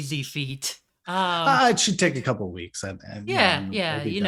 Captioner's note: sarcastically